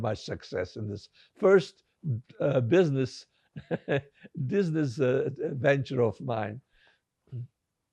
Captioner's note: laughing